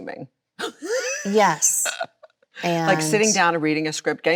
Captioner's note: Chloe laughs